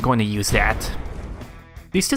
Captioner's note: explosion